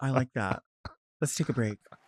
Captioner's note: laughing